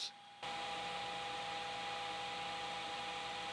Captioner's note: drill whirring